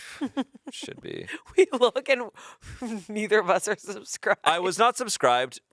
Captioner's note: laughs